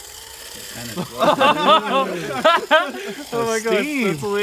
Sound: laughing

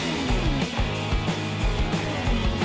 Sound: car engines roar

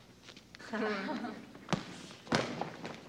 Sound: chuckling

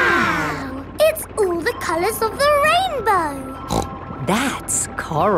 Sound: snorts

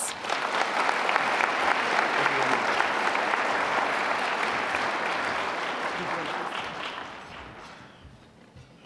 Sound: applause

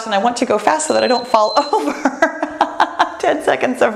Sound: timer beeps

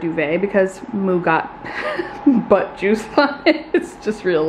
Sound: chuckles

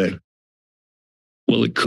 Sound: silence

